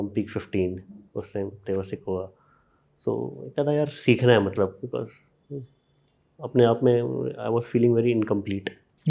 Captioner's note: speaks in Hindi